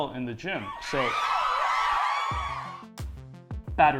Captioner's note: cheering